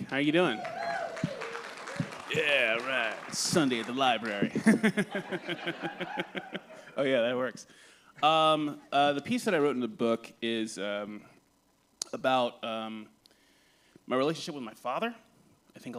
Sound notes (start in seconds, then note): 0.3 applause; 4.5 laughter